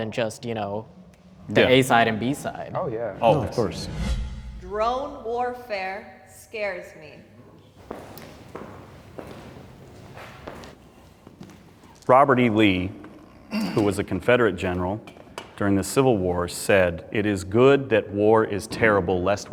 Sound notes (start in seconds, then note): 3.0 air whooshing; 7.6 footsteps approaching